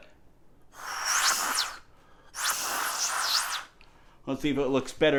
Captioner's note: air whistles